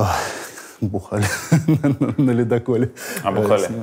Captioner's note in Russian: смеется